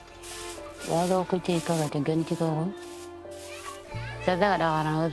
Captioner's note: non-english speech